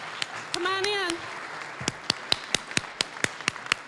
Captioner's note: applause